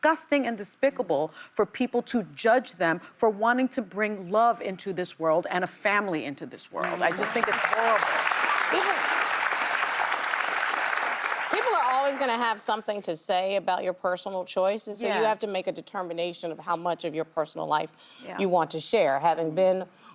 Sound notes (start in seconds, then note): 10.6 applause